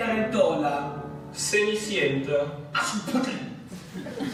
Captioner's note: speaking Italian; speaking Spanish; speaking German